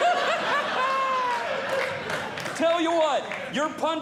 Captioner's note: laughing; audience Laughing